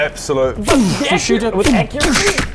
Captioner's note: boosh